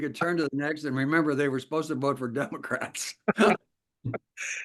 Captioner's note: laugh